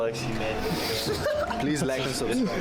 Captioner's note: laughing